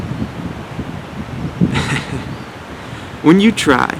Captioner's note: chuckles inhales cant breath holy shit